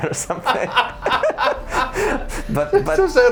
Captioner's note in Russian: смех